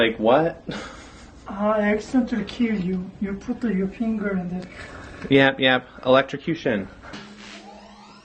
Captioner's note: makes electrocution noises